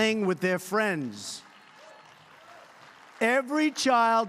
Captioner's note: applause